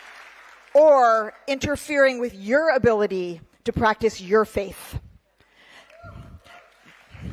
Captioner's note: cheering